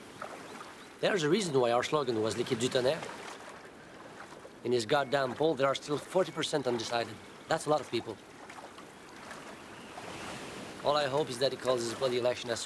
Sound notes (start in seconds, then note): 2.3 speaks in foreign language